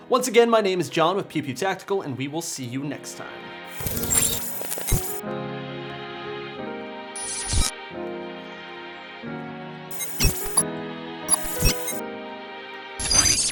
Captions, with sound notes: Once again, my name is John, with Pew Pew Tactical and we will see you next time. (mellow music) (digital tones)